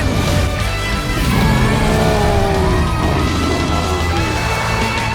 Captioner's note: roaring